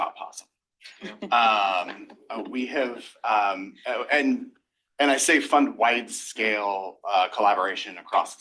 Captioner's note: laughter